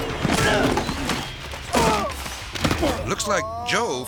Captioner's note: grunts